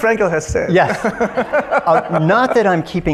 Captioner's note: audience laughs